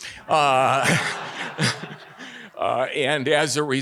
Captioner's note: everyone laughing